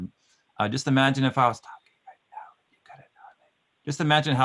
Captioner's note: whispering